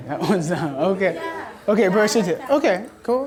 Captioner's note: voiceover